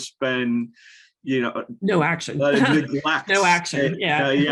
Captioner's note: laughs